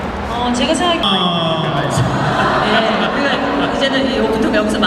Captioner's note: speaking Korean